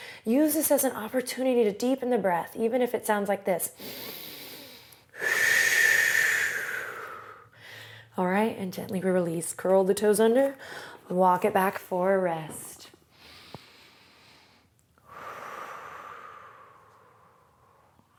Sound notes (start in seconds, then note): 3.8 loudly inhales and exhales; 13.1 inhales and exhales